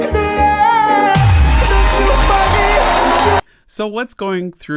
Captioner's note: crowd cheers